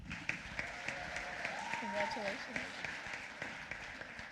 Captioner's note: applause